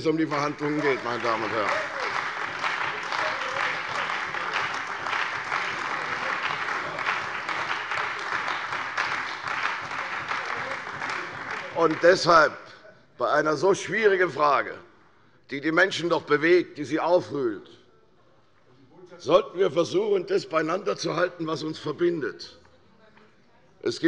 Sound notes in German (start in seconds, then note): 2.7 Beifall bei der CDU und dem BÜNDNIS 90/DIE GRÜNEN